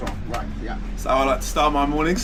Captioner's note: chest pounds